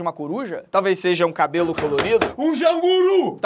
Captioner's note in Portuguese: bate várias vezes na mesa